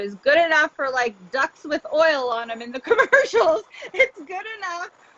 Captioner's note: laughs